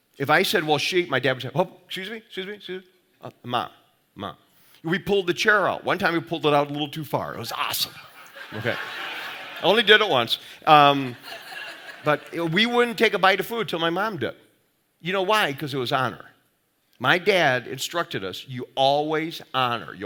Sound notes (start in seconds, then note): 8.1 audience laughing